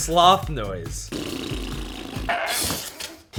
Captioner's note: sloth "noises"